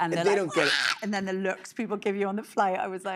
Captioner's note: imitates tantrum